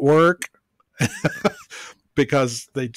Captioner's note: laughs